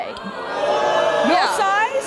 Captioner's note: hollering